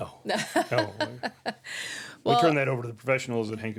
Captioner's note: laughing